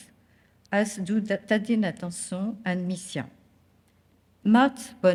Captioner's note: speaking french